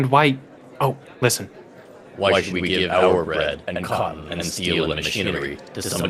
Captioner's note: loudspeaker